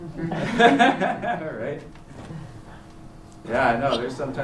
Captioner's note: chuckles